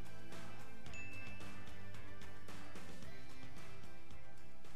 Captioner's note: bell dinging